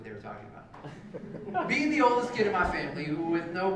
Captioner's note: laugh